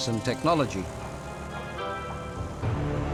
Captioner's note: blades whirring